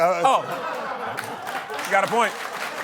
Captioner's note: laughter; applause